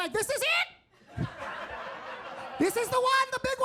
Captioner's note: audience laughing